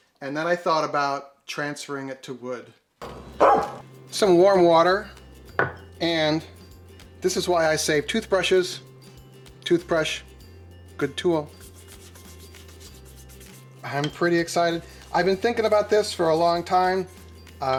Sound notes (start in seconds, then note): 3.4 dog barking; 12.4 rustling paper